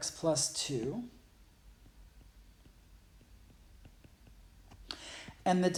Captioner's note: writing